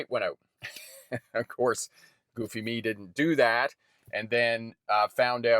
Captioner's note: laughs